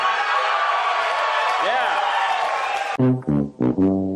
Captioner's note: crowd cheers